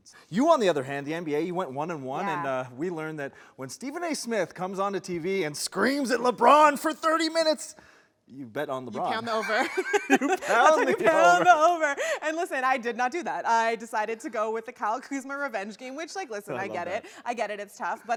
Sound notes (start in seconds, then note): 9.0 laughing